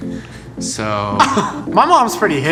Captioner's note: laughing